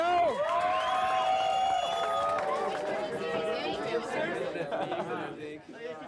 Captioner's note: cheering and applause; chatting and laughing